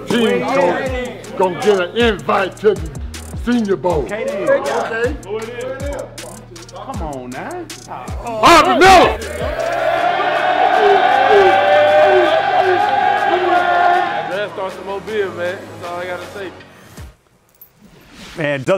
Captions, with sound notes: THIS TEAM WAS GOING TO GET AN INVITE TO THE SENIOR BOWL. >> COME ON, NOW! [CHEERING] >> ALL I'VE GOT TO SAY. >> IT DOESN'T GET MUCH MORE